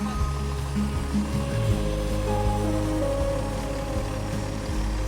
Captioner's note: RV engine roaring